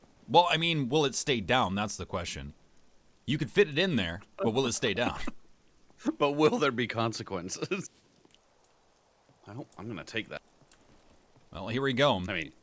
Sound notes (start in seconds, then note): 4.4 laughs